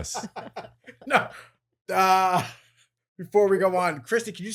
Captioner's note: laughing